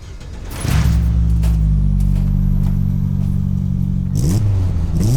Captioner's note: engine cranks on and roars